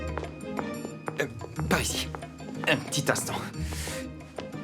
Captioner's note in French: se racle la gorge